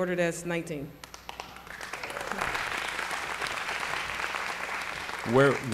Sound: applause

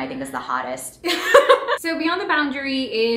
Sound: laughing

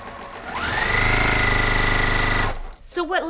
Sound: sewing machine whirring

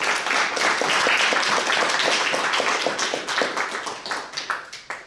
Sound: audience applauding

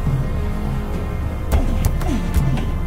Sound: punches Thudding

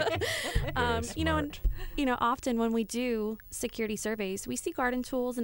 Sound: laughter

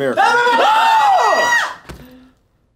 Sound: all scream

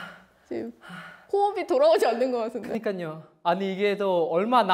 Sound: he is out of breath

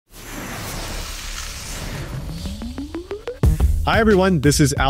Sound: electronic tones

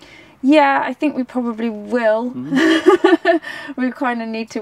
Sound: laughs

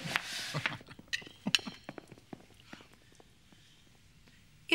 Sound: chuckles

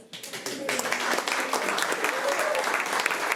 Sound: applause

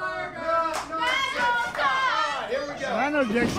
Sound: fans cheering

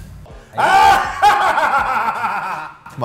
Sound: laugh

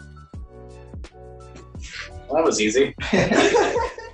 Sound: laughter

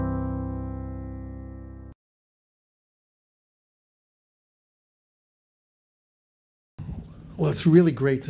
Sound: silence

